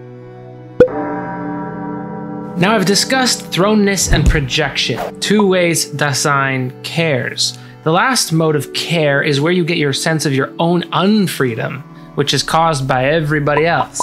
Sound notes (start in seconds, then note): 0.8 pop; 0.9 a funeral bell chimes